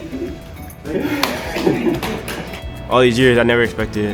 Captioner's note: clapping